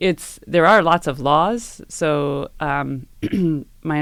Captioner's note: cough